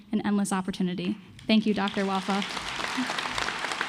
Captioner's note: applause